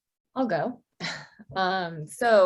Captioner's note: chuckles